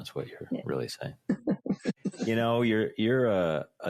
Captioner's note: chuckling